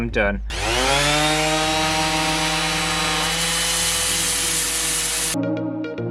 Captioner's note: sanding Sounds